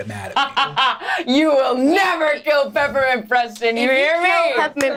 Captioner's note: laughs